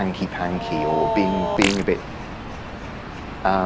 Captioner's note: Rog screaming in distance